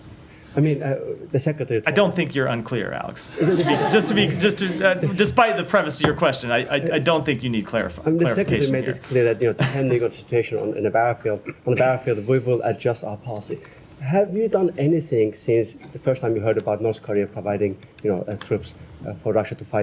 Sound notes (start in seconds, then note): 3.3 laughter